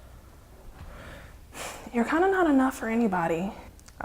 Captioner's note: sighs